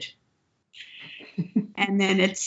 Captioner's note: laughs